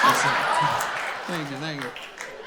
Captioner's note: audience continues laughing